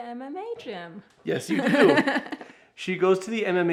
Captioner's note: laughs